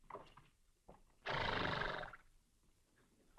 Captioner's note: horse neighs